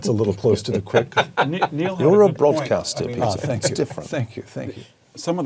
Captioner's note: laugh